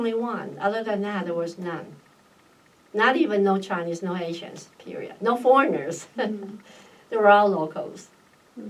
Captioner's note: laughs